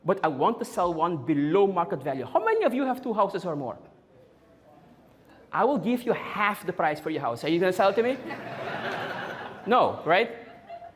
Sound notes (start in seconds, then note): 7.8 audience Laughing